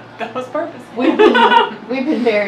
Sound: laughs

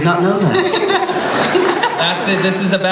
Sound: laughter

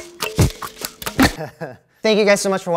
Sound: laughter

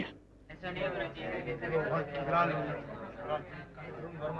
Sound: indistinct chatter

